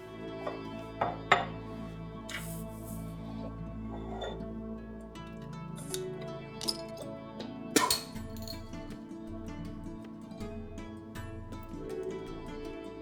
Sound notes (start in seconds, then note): 7.7 bottle Cap falls